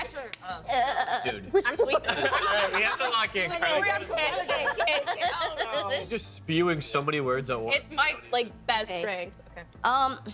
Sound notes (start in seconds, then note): 3.6 laughing, chattering